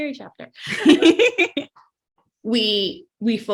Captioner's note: laughs